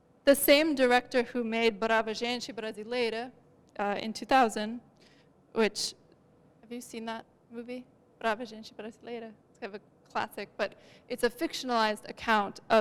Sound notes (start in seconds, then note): 3.1 non-english; 7.9 non-english